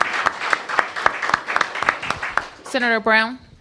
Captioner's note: applause